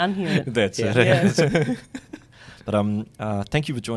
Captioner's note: laughs